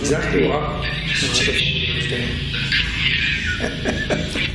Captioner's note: recorded talking